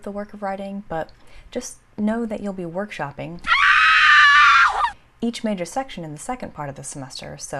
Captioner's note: scream